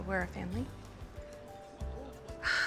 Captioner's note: relieved sigh